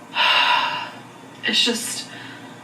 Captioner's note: exhales